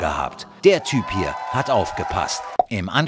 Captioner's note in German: Jubel